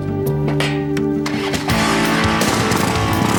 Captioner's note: motorcycle revs